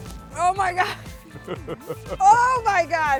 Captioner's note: laughing